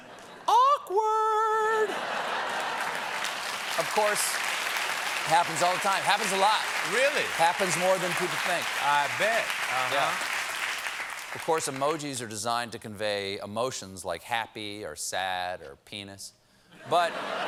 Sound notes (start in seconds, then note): 4.1 applause; 4.1 laughter